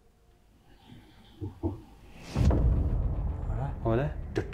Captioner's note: knocks from the wind